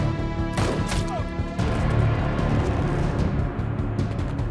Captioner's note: gunman grunts